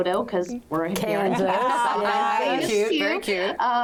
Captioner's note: group laughs